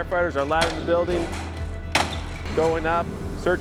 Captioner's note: sound of window obsticles being smashed